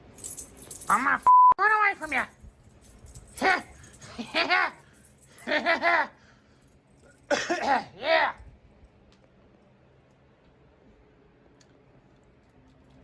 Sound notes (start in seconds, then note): 5.3 Caprice laughs and giggles; 7.2 coughs